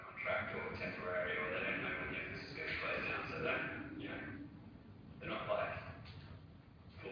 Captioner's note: microphone static; audio distorts